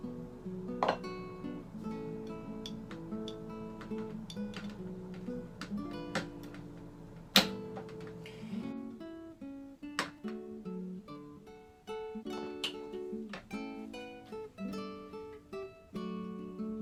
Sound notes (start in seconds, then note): 0.5 soft guitar music; 5.1 sound of the wire on the lid clicking into place; 7.9 soft guitar music